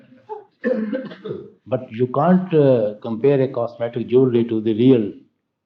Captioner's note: laughter